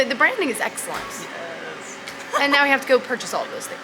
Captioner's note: laughing